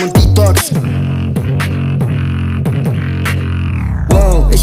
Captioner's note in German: Beatboxing